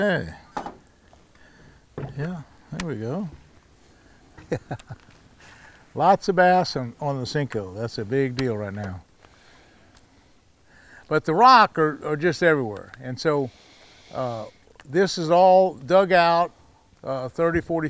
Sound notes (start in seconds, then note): 4.3 chuckling